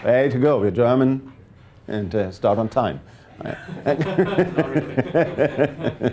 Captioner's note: laughs